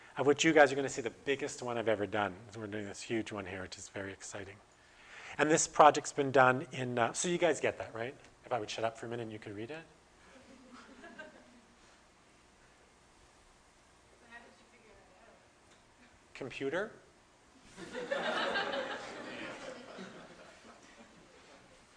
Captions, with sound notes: Of which you guys are going to see the biggest one I've ever done. We're doing this huge one here which is very exciting. And this project's been done in, so you guys get that right? If I would shut up for a minute and you could read it? [Audience: Laughter] Computer? [Audience: Laughter]